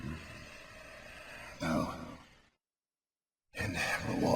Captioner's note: sigh